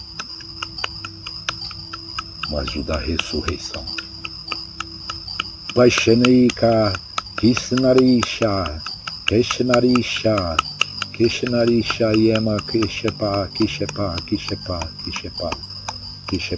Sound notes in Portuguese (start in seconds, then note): 7.9 vibração